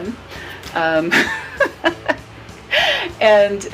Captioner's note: laughs